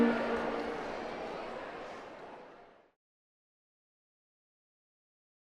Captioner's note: crowd chattering